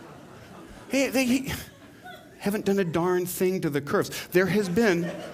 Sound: laughter; laughter

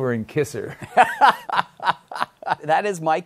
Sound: laughs

